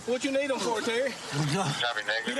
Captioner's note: panting